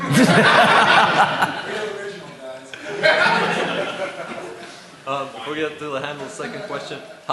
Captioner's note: laughter